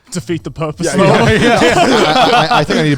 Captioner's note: all laughing